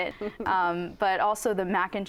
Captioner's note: laughs